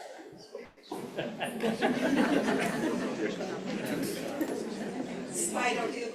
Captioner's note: laughter